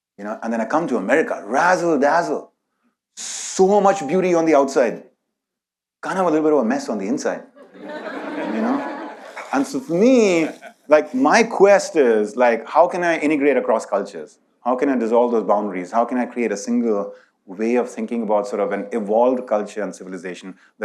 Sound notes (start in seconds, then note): 7.6 audience laughs